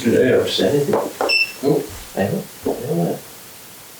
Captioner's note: CCTV turns off